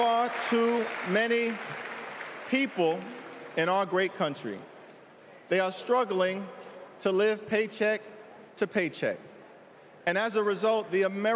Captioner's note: cheering